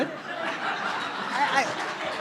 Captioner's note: laughter